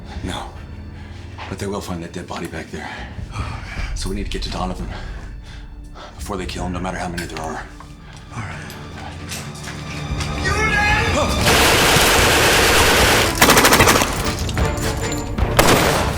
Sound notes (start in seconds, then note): 9.2 ominous music; 10.4 officer yelling in German; 11.4 rapid gunfire booming; 12.9 suspenseful music